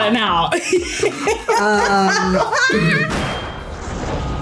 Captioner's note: laughs; suspenseful music